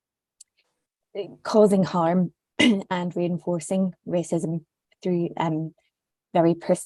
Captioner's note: coughs